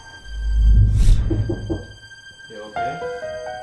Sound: Liz whooshes; knocking on door

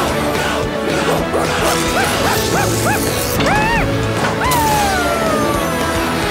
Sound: barking

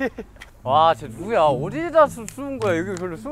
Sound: frustrated

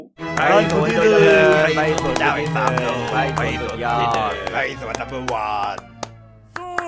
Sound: fake applause and compliment

